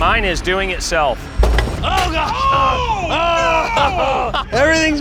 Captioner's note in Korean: 웃음